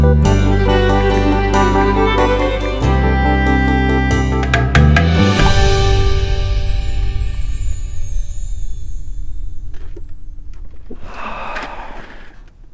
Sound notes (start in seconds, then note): 10.8 sighs